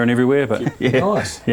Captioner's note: chuckles